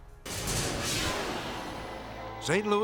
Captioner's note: dramatic whoosh